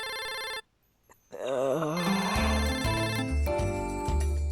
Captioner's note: moans tiredly